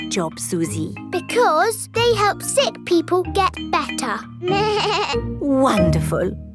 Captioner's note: bleats